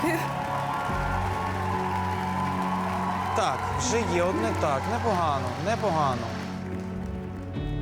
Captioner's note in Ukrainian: оплески